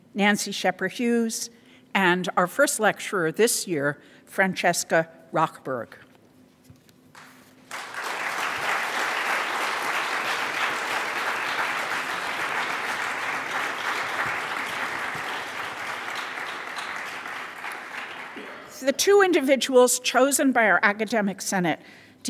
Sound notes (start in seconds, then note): 7.7 audience applauds